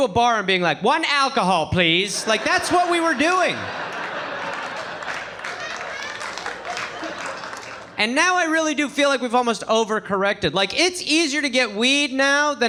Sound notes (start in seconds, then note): 3.7 audience laughing